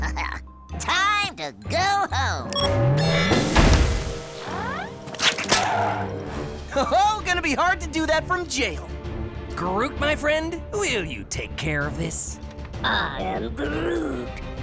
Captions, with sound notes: [laughing] Time to go home. [beeps] [crash] Ho ho, gonna be hard to do that from jail. Groot, my friend, will you take care of this? I am Groot.